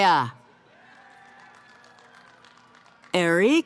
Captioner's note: cheering